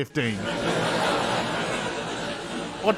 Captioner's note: laughter